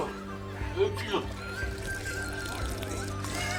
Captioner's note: wine spilling